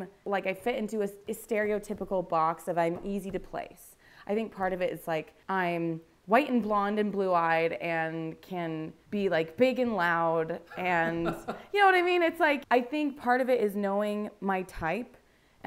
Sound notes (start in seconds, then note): 10.7 laughs